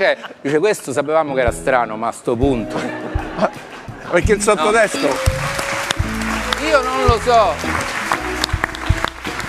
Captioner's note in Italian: Applauso